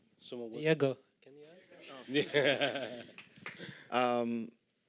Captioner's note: laughter